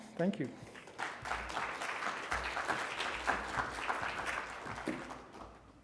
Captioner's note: congregation clapping